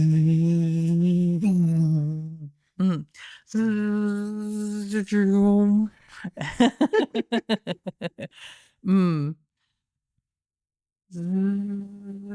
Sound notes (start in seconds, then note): 3.6 humming